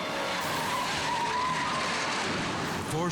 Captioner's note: tires skidding